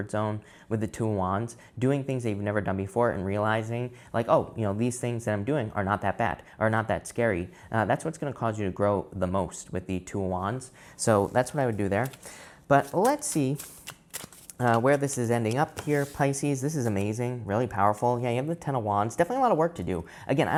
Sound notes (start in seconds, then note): 12.6 cards shuffling